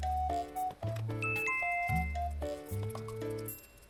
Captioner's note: chime